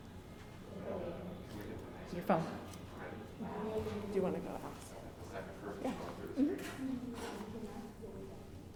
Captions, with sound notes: It's your phone. Do you wanna go officer? (whispering)